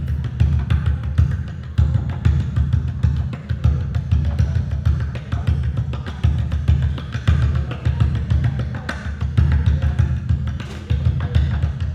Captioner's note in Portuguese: Batidas abafadas